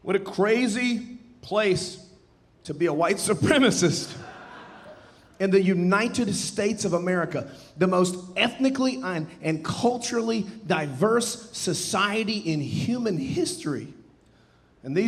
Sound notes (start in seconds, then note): 4.0 audience laughing